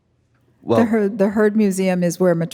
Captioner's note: laughing